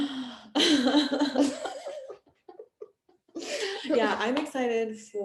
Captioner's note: laughing